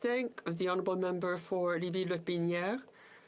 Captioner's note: speaking French